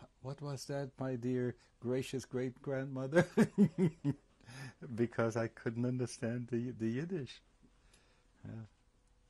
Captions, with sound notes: [LAUGHS] because I couldn't understand the, the Yiddish. Yeah.